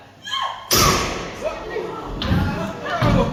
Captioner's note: gunshot